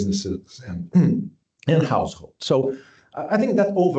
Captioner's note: clears throat